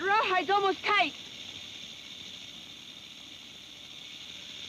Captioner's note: snake rattles